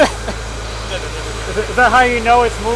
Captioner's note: laughing